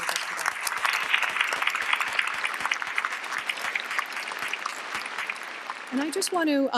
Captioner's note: applause